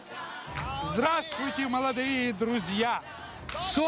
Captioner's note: speaking russian